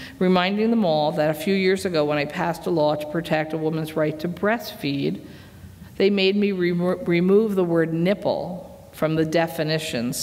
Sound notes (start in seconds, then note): none